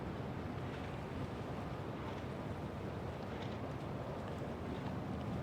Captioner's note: wind and water lapping